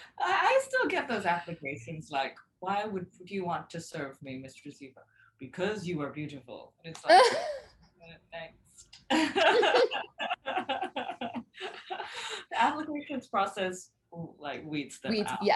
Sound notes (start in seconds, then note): 7.6 both chuckling